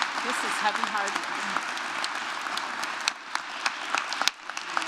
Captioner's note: applause